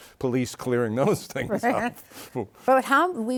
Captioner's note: laughs